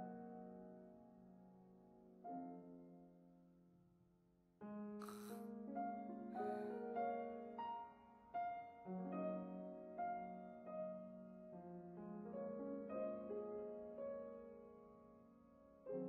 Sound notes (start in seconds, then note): 5.0 sighs